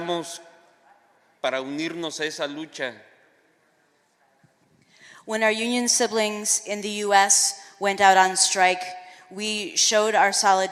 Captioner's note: speaking spanish